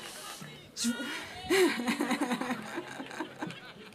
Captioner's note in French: Rires